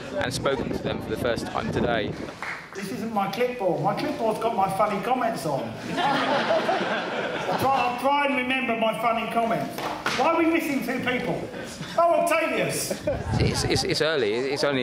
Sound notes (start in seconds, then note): 5.8 laughter